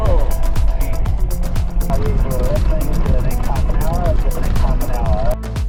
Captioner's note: over HF radio